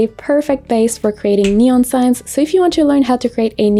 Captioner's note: fingers snap